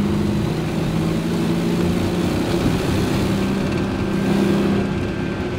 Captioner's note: engine humming continues